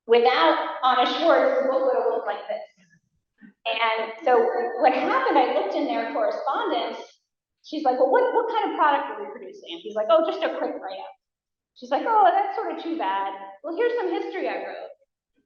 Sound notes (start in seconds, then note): none